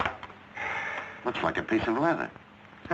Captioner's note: sighing